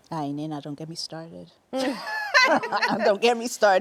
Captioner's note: laughter